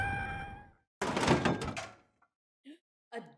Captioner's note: clatter